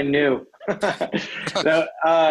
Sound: laughs

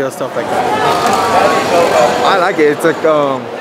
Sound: crowd chattering

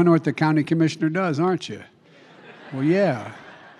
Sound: laughter

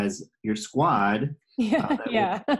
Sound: laughter

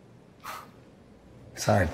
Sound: sighs

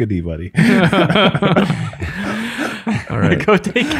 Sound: all laugh

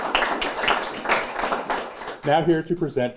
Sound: applause

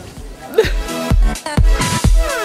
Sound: light sob

